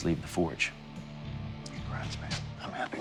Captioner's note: whispering